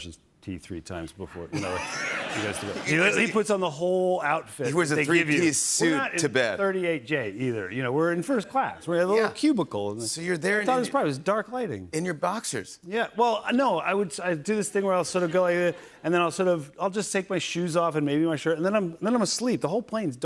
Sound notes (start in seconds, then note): 1.5 laughter